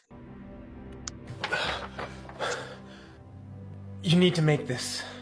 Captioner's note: suspenseful music; heavy breathing